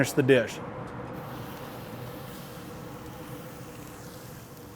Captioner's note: meat sizzling